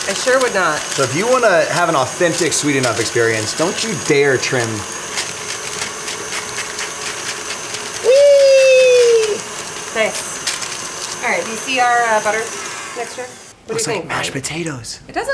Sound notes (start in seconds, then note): 7.9 yells out